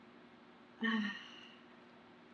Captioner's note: sighs